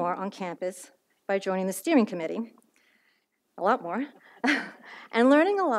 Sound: laughs

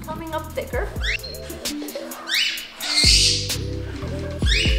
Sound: birds calling

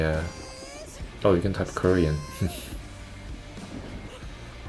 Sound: chuckle

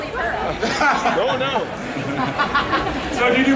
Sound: audience laughing

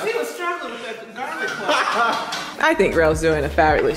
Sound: laughing

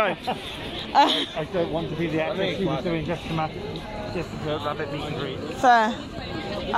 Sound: laughs

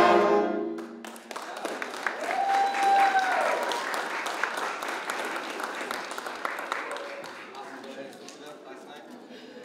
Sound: applause

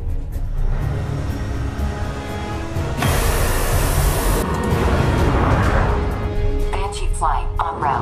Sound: jet takes off

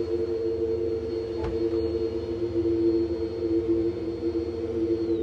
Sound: book thumps on floor

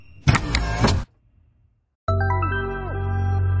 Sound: popup headlight sound; trap music

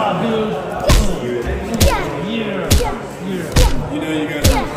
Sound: grunting

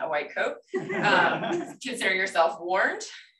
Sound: laughter

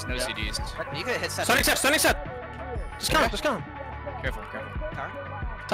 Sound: excited chatter

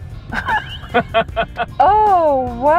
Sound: laughter

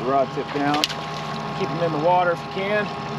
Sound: fish splashing

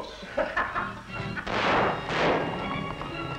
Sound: laughter; gunshots

